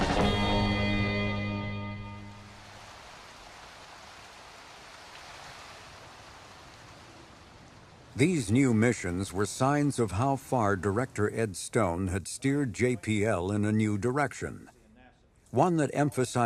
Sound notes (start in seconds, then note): 3.4 water pouring